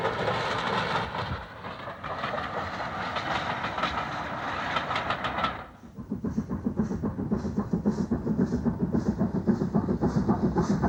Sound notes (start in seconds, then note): 1.9 train passing